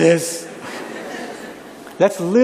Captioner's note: laughter